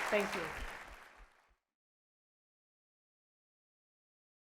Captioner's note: audience clapping